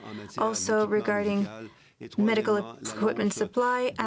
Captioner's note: speaking French